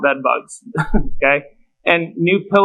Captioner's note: man chuckles